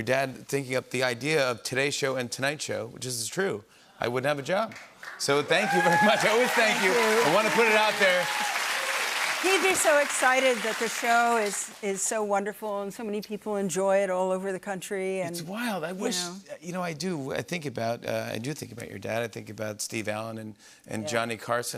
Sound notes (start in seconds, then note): 8.0 cheers and applause